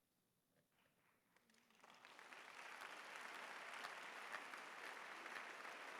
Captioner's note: applause